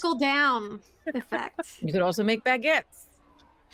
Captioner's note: chuckles